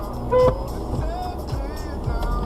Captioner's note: horn sound